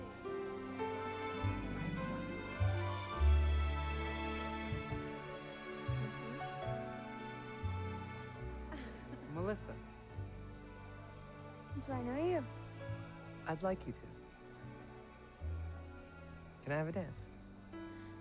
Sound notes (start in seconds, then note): 0.1 romantic music; 8.7 Melissa laughing